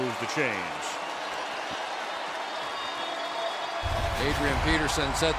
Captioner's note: cheering